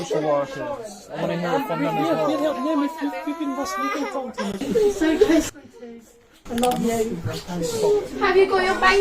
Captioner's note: baby crying